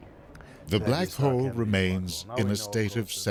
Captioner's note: voiceover